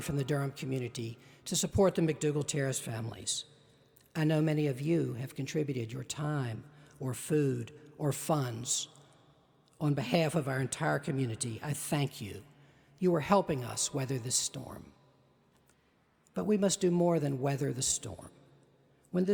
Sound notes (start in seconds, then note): none